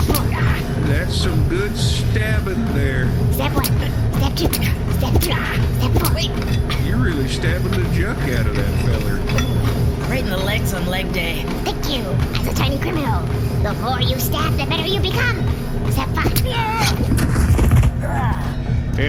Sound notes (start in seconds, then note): 0.3 after each stab, a guy gasps and yells; 3.7 with the stabbee continuing to gasp/yell after each